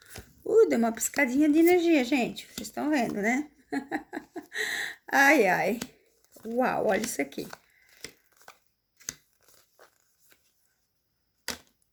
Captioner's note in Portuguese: risadas